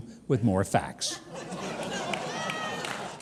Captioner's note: laughter